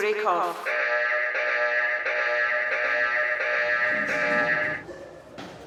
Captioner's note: alarm ringing